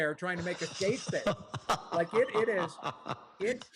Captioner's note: laughter